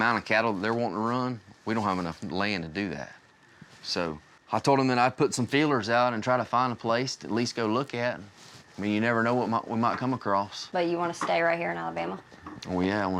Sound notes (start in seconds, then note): none